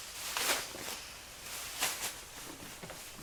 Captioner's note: plastic bag rustles